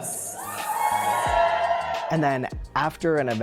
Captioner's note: audience yells "Whoo!"